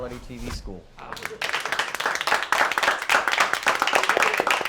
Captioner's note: applause